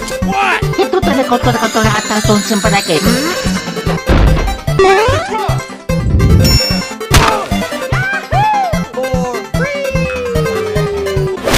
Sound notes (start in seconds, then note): 3.5 BUMPS at the ground